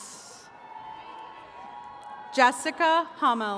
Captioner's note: attendees cheering